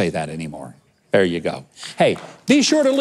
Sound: clapping

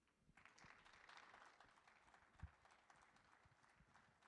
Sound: audience applauding

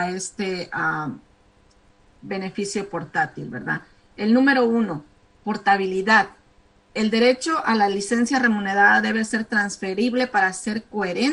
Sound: speaking spanish

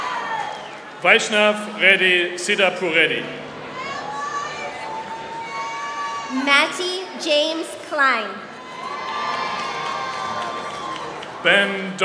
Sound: applause; applause

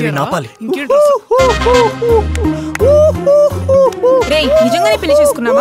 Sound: laughs

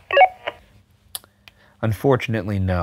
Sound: walkie beeps

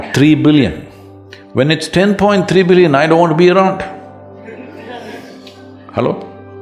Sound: laughter

